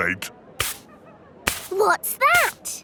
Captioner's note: brushing